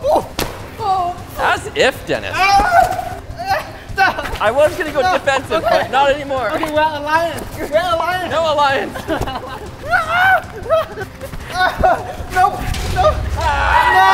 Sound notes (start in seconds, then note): 0.0 excited fighting; 0.3 gladiator sticks clashing; 2.4 screaming; 9.4 giggling and screaming; 13.0 screaming